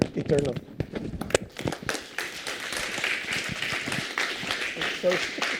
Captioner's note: applause